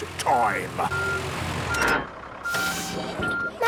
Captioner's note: beeping, hydraulic noises